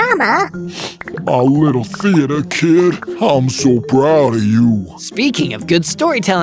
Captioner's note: sniff